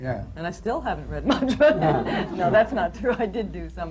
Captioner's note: laughter